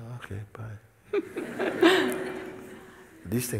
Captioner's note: laughter